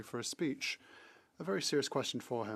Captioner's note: speaking French